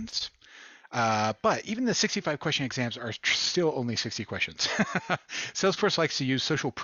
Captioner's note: laughter